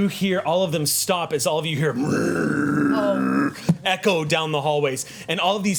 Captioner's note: growls